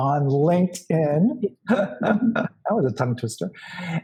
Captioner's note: laughs